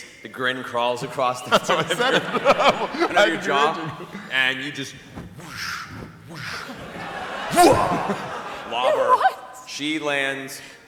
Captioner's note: whoosh; cracking